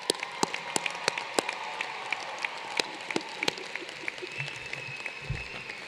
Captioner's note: applause